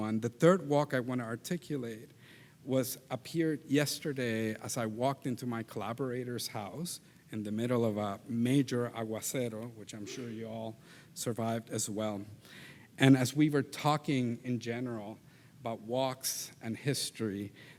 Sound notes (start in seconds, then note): 8.5 speaks in Spanish language